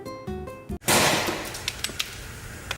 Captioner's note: crash